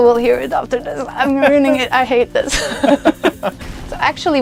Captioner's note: خندیدن